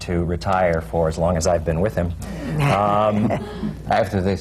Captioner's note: laughter